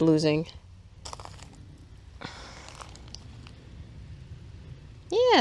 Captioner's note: forest crumbs crunching